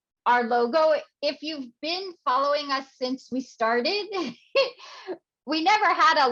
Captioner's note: laughs